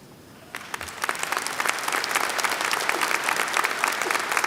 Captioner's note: applause